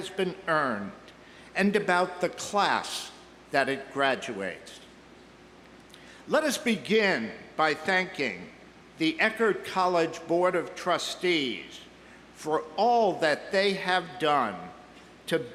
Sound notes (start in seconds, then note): none